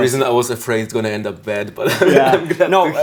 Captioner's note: laughs